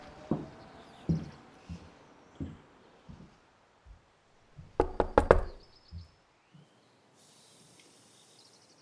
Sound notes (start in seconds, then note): 4.7 knocking on door